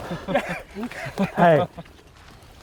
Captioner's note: people laughing